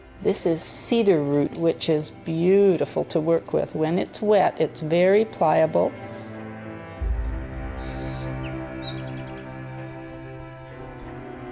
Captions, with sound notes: This is cedar root, which is beautiful to work with. When it's wet it's very pliable. (birds chirping)